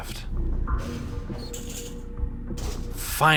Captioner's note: ramp drops; door rustles open